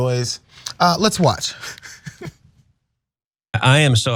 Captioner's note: laugh